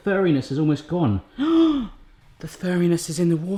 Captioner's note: gasps